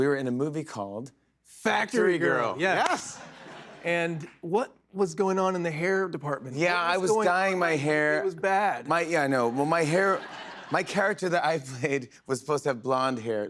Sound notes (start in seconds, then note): 9.4 laughter